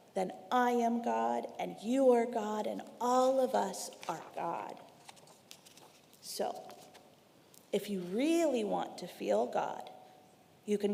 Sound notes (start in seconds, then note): 4.8 paper rustling